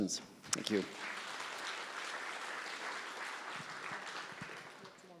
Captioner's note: applause